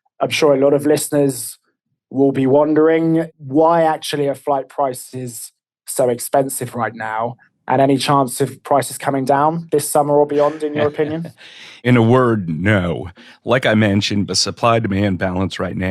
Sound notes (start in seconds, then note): 10.3 laughs